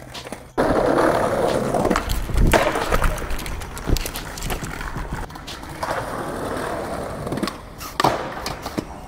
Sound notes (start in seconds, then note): 1.9 thuds; 5.7 skateboard rolling